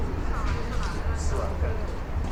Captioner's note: voice of passers-by